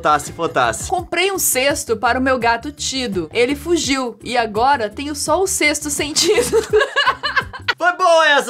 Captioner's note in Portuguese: Risadas